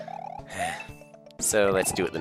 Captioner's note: sigh